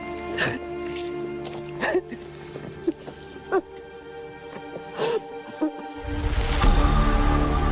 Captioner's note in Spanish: Sollozos